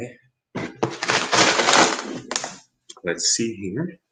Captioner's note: stone bag rustles